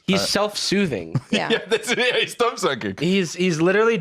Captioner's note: laughing